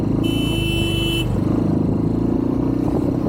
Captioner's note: horn blaring